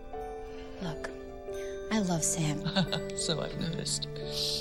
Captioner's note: chuckles